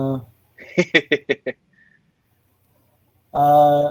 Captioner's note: laughing